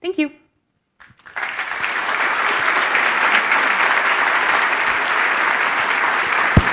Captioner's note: applause